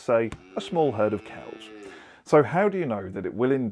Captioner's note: cow moos